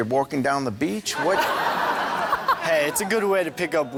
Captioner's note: laughs